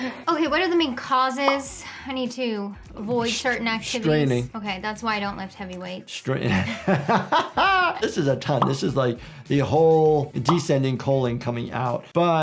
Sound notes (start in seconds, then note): 6.4 people laughing